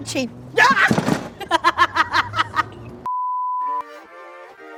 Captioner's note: laughs